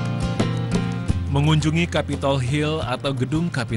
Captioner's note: non-english speech